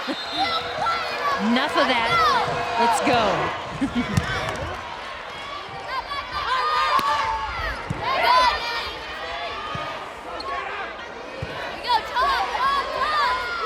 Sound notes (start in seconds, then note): 3.7 chuckles; 8.1 players yelling